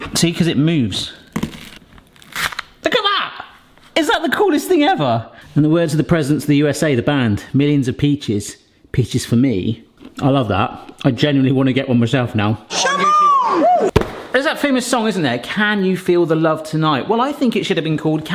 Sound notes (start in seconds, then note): 0.0 peach crunches